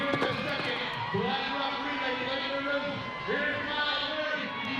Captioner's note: announcer calling race, crowd cheering; announcer calling race